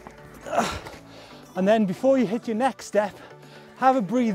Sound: groans

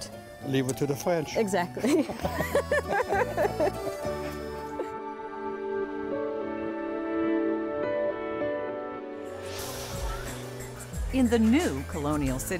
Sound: laughter

